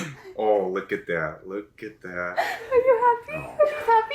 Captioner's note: laughs